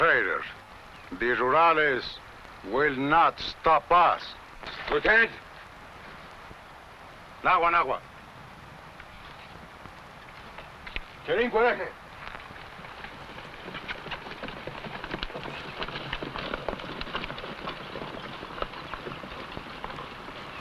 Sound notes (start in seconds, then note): 7.5 speaking foreign language; 16.1 horse hooves pattering